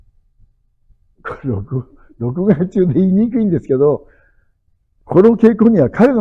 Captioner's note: laughs